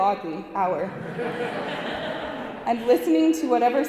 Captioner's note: audience laughing